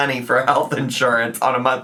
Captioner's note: none